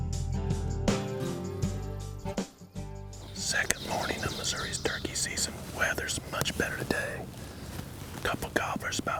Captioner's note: whispering